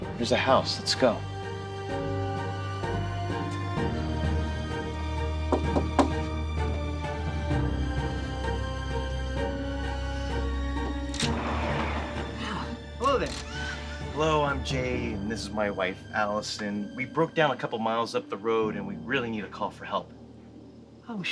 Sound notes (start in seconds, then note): 2.5 tense music; 5.4 driver knocking on door; 8.3 tense music